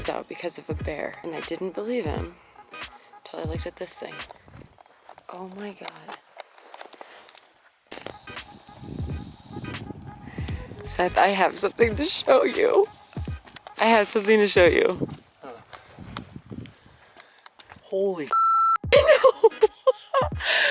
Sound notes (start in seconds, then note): 18.3 beep; 20.5 laughing